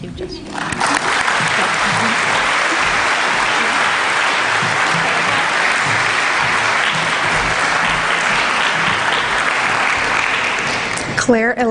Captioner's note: applause